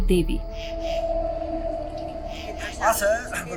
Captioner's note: eerie music; cricket chirping